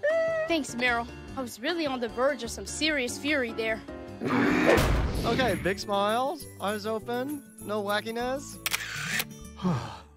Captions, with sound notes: Thanks, Meryl. I was really on the verge of some serious fury there. [groaning] Okay, big smiles. Eyes open. No wackiness. [clicking, sighing]